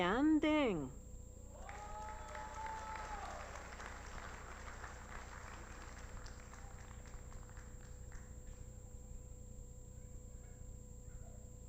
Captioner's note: applause